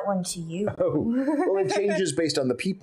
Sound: Lady Cimorene laughing

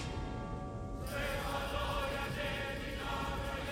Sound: men chanting

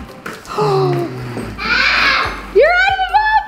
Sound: gasps

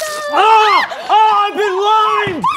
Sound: screams

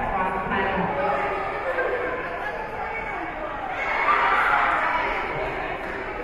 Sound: spectators and teams chattering

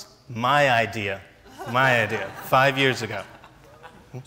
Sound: laughs

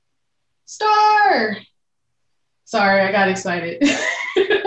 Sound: laughing loudly

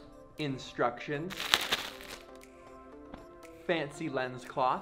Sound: paper crinkling

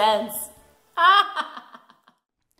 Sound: maniacal laugh

